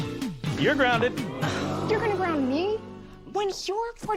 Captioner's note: audience: Oooooo!